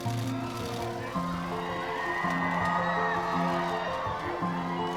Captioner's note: crowd cheering